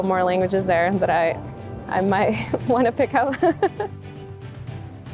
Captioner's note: chuckles; inspirational music